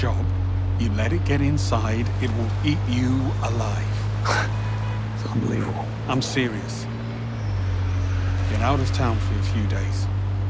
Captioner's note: snorts